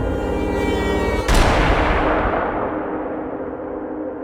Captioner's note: gunshots fired